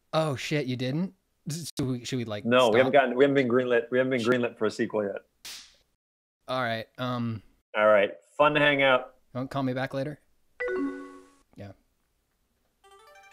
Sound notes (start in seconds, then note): 5.5 confetti popping; 10.6 AOL notification noise; 13.1 energetic music